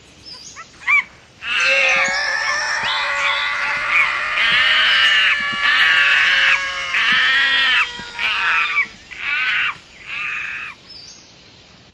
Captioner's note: screaming